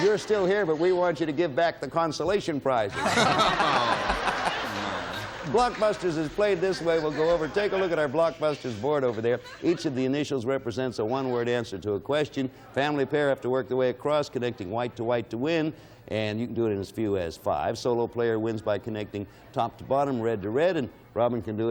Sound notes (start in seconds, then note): 2.9 laughing